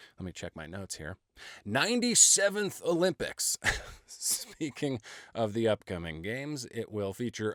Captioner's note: laughing